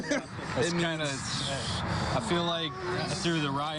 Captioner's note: laughter